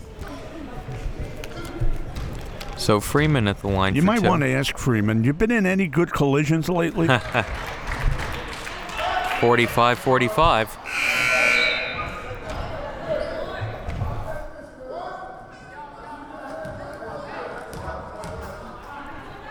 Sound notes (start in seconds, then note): 6.9 laughs; 7.0 audience clapping; 10.8 buzzer blares